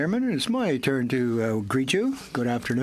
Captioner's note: speaking French